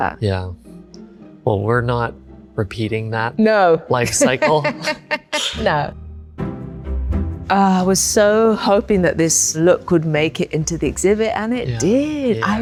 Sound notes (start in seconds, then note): 4.0 chuckles